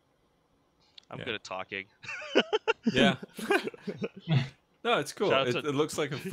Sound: laughter

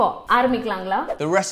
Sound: speaks in foreign language

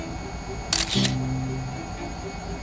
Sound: camera click

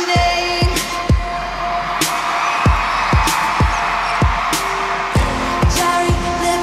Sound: cheers and applause

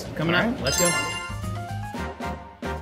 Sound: upbeat music; bell trills

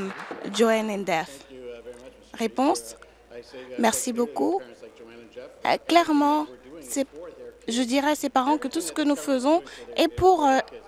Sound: applause

